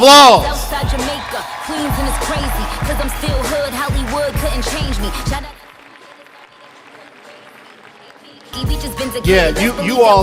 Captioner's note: applause/cheers, song continuing to play